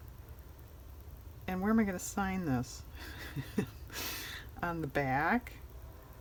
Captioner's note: laughs